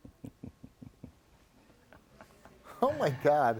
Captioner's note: chuckling